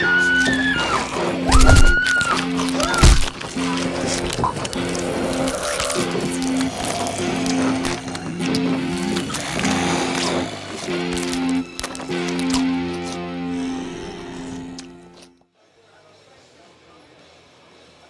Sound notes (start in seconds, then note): 0.1 zombies growling; 3.0 flesh squelching